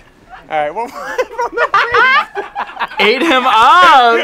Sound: laughs

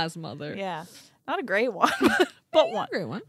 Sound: laughs

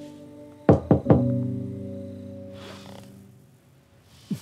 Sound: door knocking

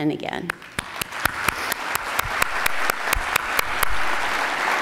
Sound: attendees applauding

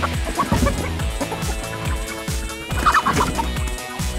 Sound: clucking

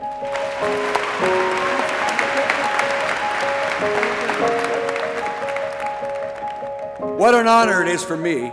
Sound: applause

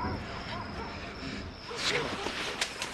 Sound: dog barking

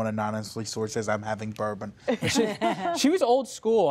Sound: laughter

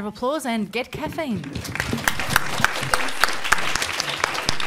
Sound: audience applauding

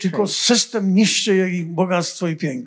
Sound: foreign language

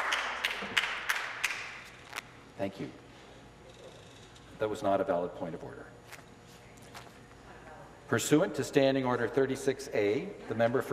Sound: applause

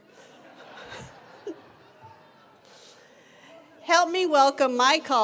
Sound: attendees laughing

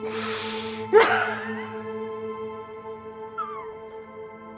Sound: Charles sobbing

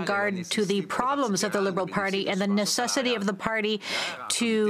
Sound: speaking French

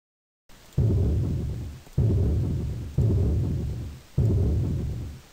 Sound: quiet booming sound

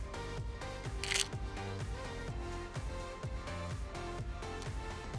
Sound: camera clicking

